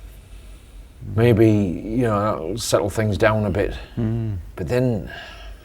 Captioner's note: hmm